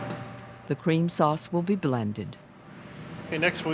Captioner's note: voiceover